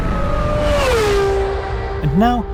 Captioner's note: car whizzing